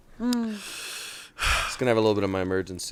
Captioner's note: sighs